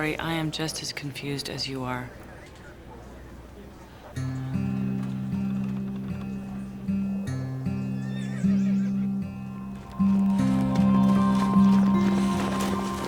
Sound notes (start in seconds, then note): 4.5 dramatic orchestral music; 7.9 horse neighing